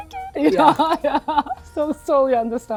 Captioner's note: laughing